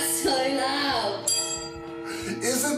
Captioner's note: clang